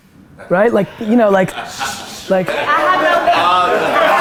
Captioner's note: group laughter